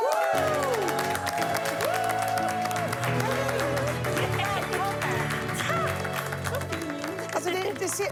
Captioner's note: Applåder